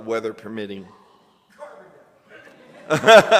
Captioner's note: coughing; laughter and applause